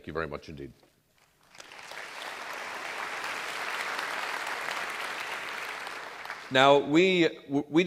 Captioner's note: applause